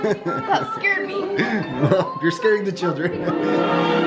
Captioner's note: chuckles